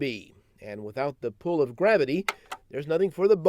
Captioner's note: button clicking